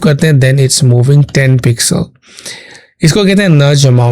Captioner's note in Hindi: नाक से की जाने वाली आवाज़